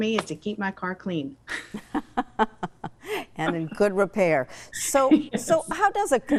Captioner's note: laughs